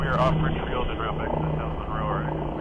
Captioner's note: radio traffic